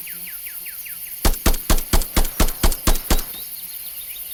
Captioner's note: gun blasting